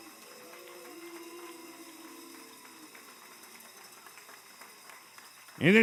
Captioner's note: applause